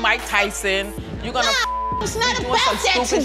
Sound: beep

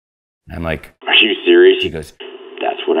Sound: voiceover

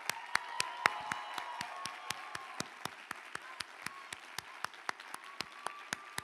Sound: applause

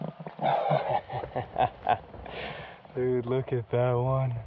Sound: laughs

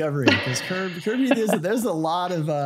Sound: laughing

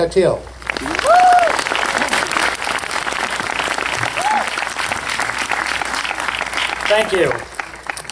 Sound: applause

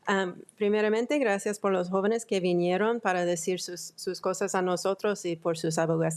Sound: speaking in foreign language

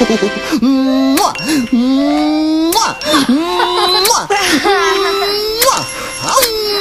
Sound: kisses; reverse kisses

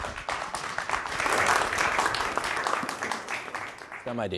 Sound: applause

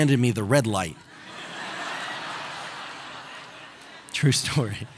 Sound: audience laughing

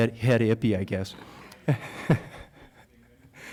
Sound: laughter

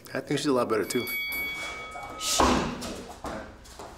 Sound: bell rings

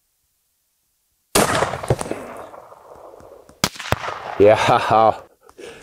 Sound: firearm shooting

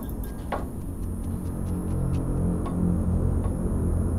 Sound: lights humming

